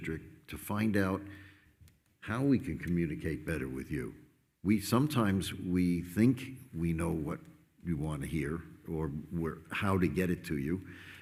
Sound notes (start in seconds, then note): none